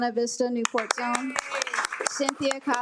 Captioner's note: attendees applaud